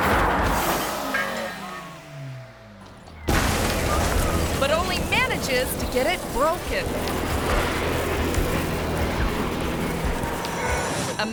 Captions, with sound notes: (ramp clangs) (car crashes) But only manages to get it broken. (car scratching) (tense music)